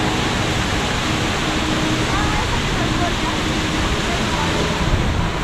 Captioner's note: fall of water